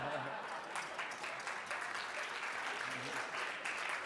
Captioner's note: applause